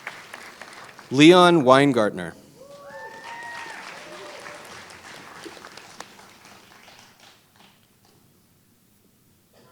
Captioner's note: applause